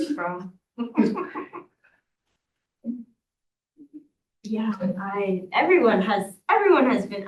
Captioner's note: laughter